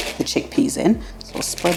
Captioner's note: soft tumbling